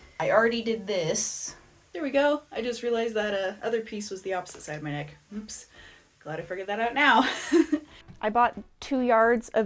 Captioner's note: pained laugh